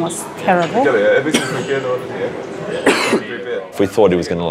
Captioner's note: coughing